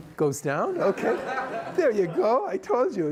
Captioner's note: laughter